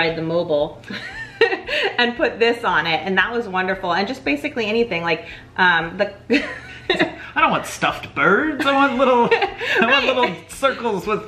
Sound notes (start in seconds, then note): 6.5 laughs